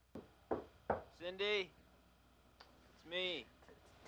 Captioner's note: Dennis knocking